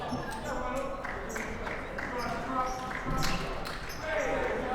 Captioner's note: clapping